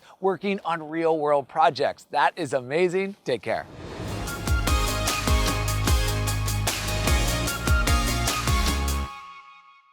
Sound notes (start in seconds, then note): 3.6 transition whooshing; 3.7 upbeat music